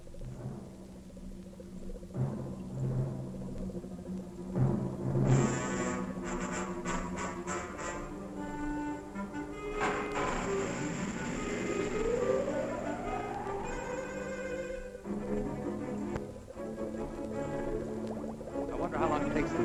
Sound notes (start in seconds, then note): 0.1 dramatic music; 9.8 machinery whirring